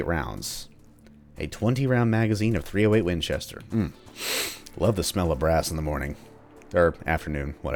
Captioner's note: deep inhale